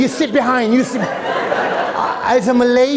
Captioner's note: laughter